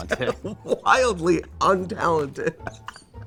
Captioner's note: laughing